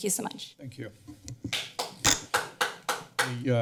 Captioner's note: clapping